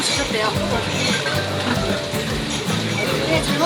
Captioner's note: giggling